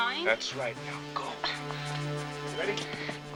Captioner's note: Pantera grunting